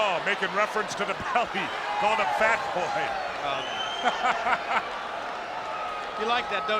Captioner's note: laugh